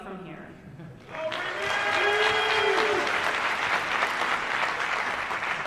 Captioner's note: applause